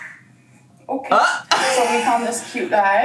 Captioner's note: laughs